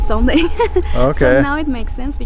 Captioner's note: laughs